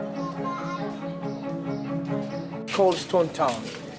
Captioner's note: birds chirping; children chattering